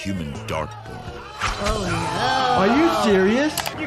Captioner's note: crowd cheering